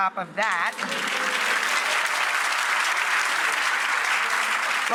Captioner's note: audience applause